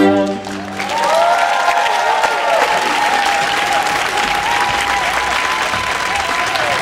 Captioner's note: audience applauding; audience cheering